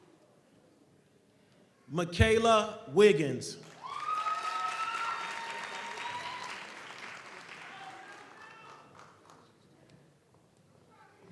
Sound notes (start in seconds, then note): 3.6 audience applauds; 3.7 audience cheers